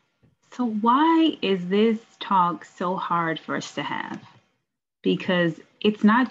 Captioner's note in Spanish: hablando